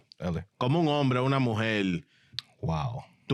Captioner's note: speaking In Foreign Language